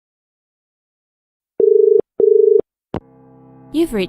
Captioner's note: dial tone